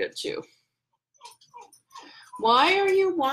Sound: dog whimpering

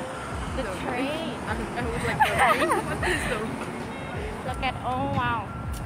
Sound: laughs

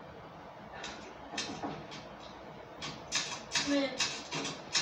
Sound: knocking

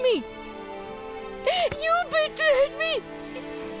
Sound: Nitya crying

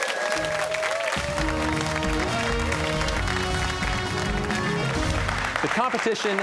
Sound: cheers and applause

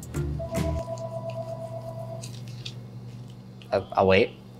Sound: phone ringing

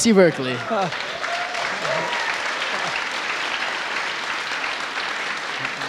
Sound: audience applauding; audience laughing

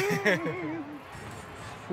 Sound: laughs

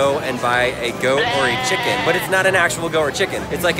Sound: goat bleats

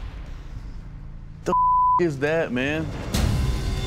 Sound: beep

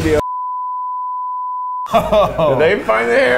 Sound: beep tone

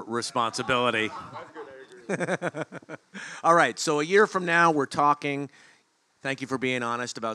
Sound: laugh

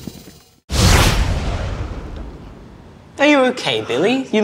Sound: zapping

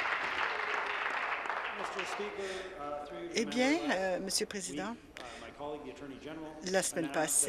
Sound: applause

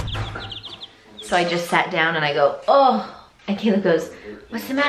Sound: groans

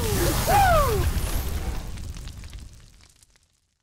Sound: text fizzles and crackles

